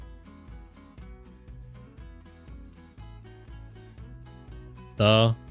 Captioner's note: silence